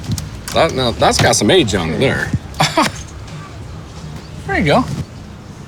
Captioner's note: chuckles